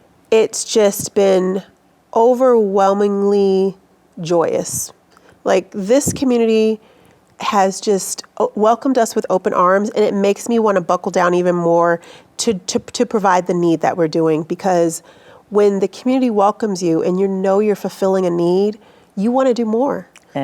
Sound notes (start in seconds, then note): none